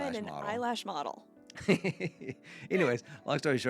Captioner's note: laughing